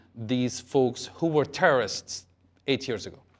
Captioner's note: none